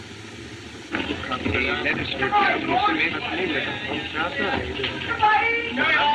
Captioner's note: chattering